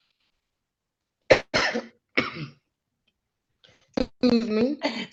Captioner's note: coughs